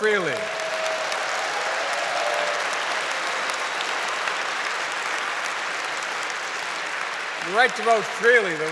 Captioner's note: applause